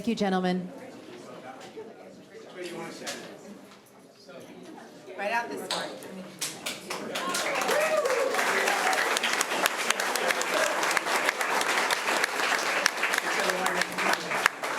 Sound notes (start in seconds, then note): 6.8 applause